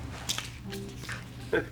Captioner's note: chuckle